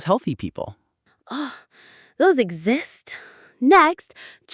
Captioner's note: gasp